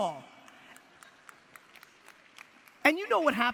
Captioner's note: audience applause